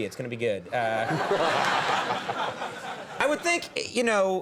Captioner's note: audience laughs